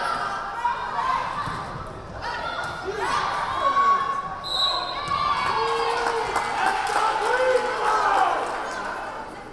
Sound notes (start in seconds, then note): 4.4 whistle blaring; 4.9 crowd cheering